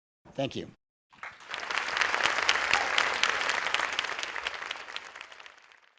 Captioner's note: audience applauding